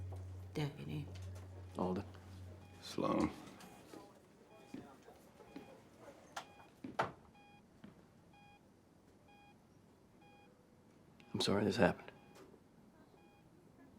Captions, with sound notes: JORDAN: DEPUTY. ALDEN. SLOAN. [HEART MONITOR BEEPING] I'M SORRY THIS HAPPENED.